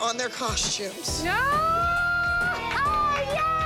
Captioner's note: cheering